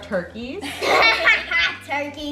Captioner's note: both laughing